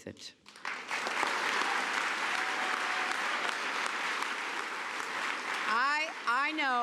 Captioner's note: applause